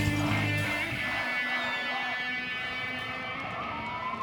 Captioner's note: people chanting